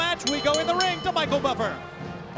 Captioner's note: bell ringing